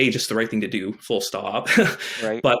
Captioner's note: chuckles